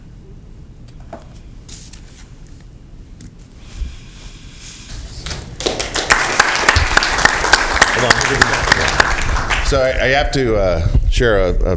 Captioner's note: applause